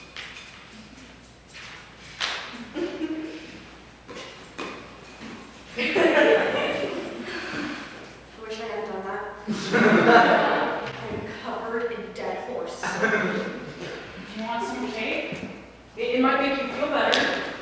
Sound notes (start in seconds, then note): 9.4 audience laughs